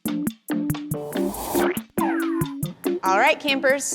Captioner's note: upbeat music playing; ice cream scoops